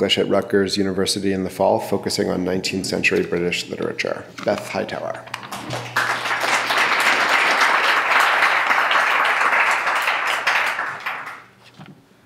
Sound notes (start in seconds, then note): 5.5 clapping